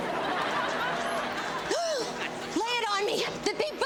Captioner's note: audience laughs